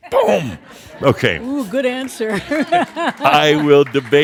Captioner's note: some chuckles; she chuckles and some applause